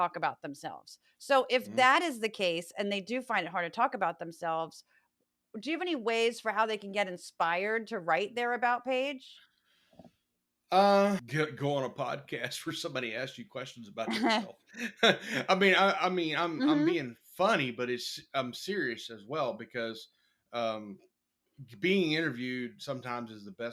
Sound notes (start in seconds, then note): 14.7 laugh